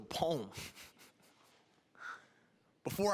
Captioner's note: chuckling